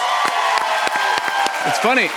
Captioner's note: cheers and applause